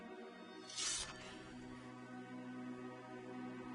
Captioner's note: metal scraping and ringing